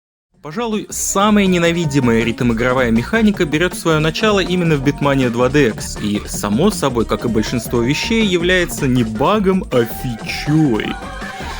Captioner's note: speed changes